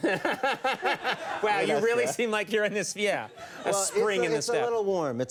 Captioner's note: both laughing; audience laughing; laughs